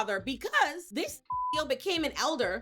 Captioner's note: beep